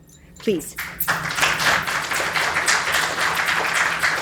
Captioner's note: applause